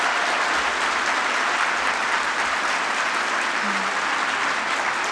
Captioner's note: applause